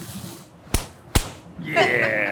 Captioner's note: high five slapping